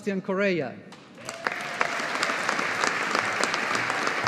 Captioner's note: audience applauding